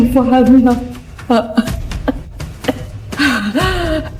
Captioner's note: coughs